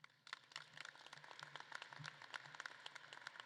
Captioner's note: audience claps